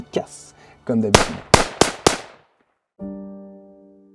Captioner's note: gunshots